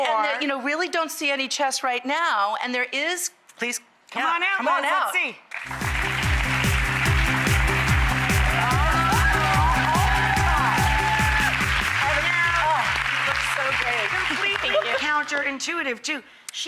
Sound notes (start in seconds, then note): 7.2 audience applauds